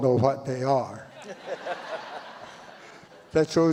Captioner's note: audience laughs